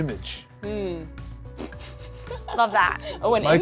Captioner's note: laughs